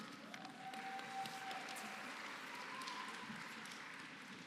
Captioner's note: applause